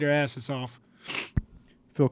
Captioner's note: sniffs